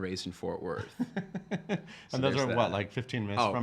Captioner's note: laughing